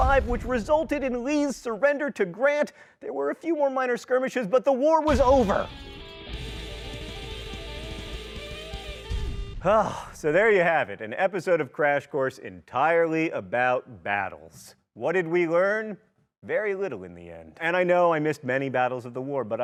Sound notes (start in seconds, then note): 5.1 energetic electric guitar music; 9.7 exhaling